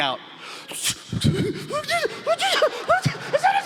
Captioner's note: stammers